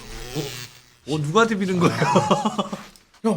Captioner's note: laughing